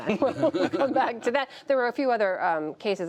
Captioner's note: laughter